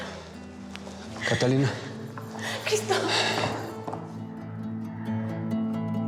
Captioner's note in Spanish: sollozos